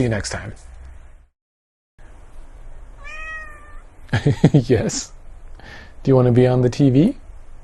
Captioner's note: cat meows